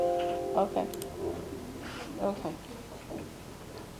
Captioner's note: computer dinging